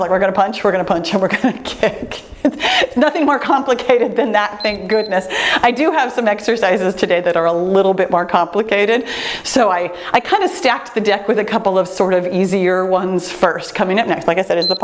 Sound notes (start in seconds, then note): 4.5 timer beeps; 14.5 timer beeps